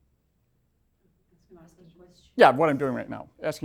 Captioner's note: voiceover